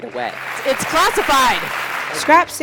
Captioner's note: crowd applauding